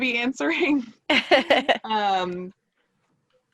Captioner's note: laughing